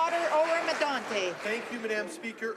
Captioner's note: speaking alternate language